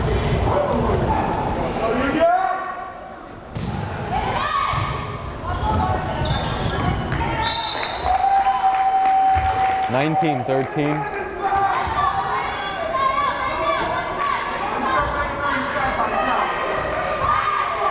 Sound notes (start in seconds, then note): 7.4 whistle blares; 13.0 crowd cheering